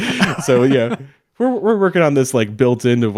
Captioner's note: laughing